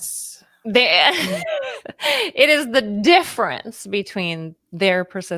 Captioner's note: laughs